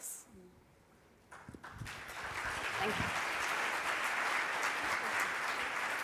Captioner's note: audience applauds